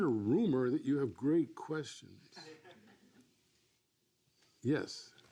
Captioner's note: laughs